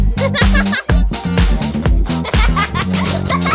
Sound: laughing

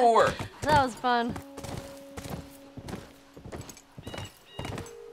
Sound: hoofbeat

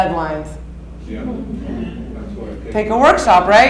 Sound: audience murmuring

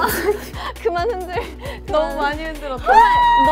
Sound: holding her laugh

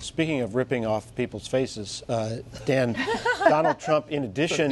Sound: laughter

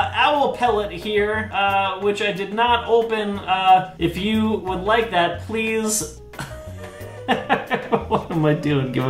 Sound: laughs

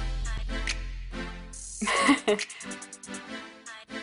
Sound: chuckles

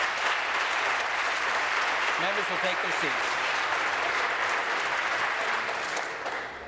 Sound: applause

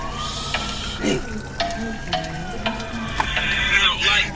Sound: sirens wailing

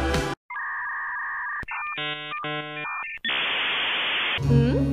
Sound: dial up internet sounds

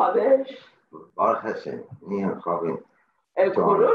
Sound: in Hebrew

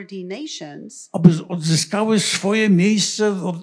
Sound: foreign language

